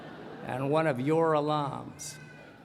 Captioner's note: laughter